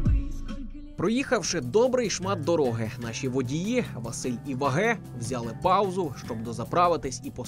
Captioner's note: voiceover